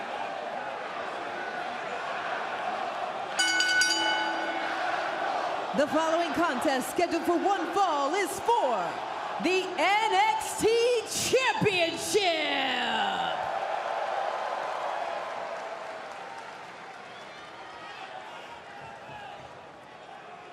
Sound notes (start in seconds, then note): 0.0 crowd chatter; 3.4 bell ringing; 5.7 crowd cheering; 10.7 crowd cheering